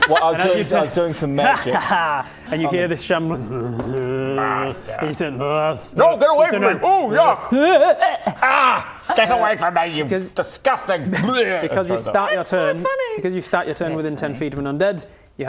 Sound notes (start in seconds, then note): 2.8 zombie shambling noises; 7.2 throwing up noises